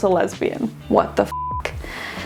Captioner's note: beeping